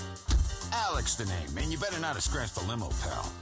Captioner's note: car door shut